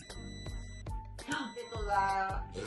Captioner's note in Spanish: sonido: piiiii; sonido: resoplido